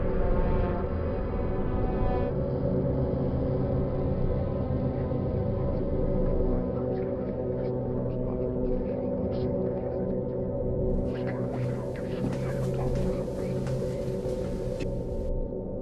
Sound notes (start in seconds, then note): 7.6 dark music; 7.6 whispering voices